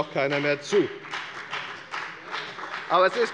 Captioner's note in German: Beifall bei der FDP